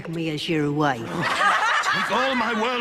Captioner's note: crowd laughing